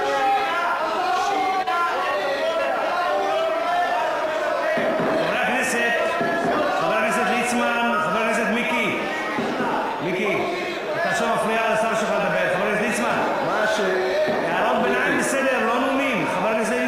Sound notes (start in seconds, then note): 0.0 shouting; 0.8 general chaos